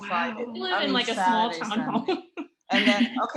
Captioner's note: laughter